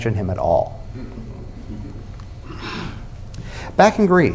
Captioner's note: laughter